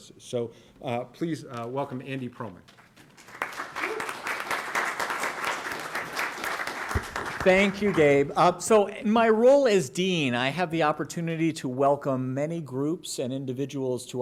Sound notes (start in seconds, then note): 4.1 applause